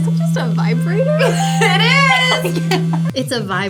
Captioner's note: laughs; bell rings